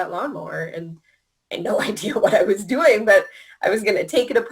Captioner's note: laughing